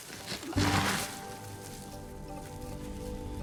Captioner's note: sound of carrot being removed from ground